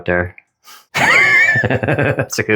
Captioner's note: death rattle